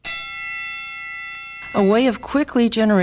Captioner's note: bell rings